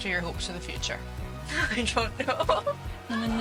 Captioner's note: laughing